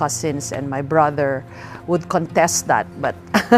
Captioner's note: laughs